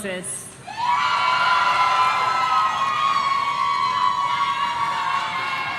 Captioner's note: audience cheering